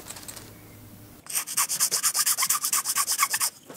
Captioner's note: grinding noise